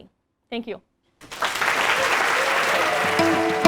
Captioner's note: applause